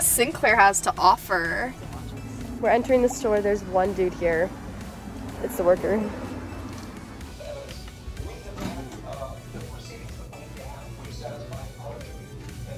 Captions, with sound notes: Sinclair has to offer. - We're entering the store, there's one dude here, it's the worker. (Upbeat music) (PA system announcements)